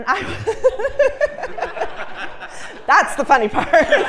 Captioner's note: laugh